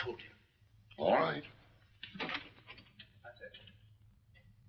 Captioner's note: door opens